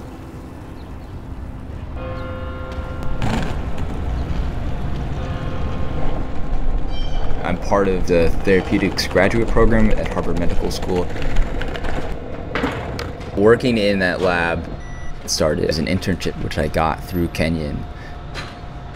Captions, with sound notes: (bell chiming) I'm part of the Therapeutics graduate program at Harvard Medical School. Working in that lab started as an internship which I got through Kenyon.